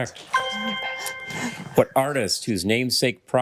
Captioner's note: ethereal ring